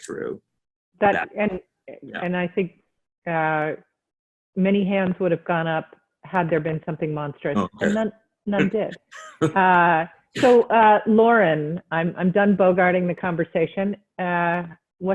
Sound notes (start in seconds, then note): 9.0 chuckles